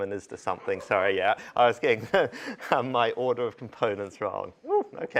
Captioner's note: laughter